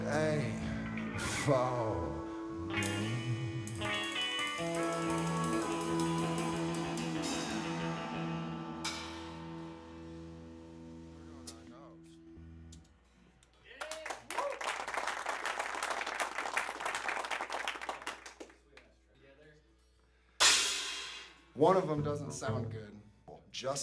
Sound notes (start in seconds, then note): 13.7 applause; 20.5 band Warms Up with Background Chatter